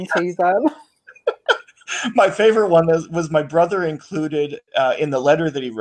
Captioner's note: laughs